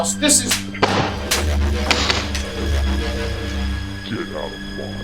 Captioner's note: objects crack and thud